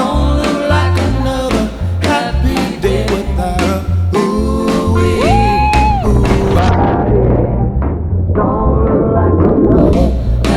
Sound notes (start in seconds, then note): 5.2 screaming; 6.6 water splashing